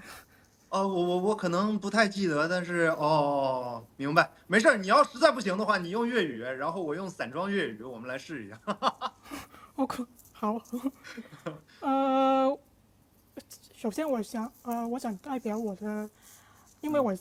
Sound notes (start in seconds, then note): 10.7 laughs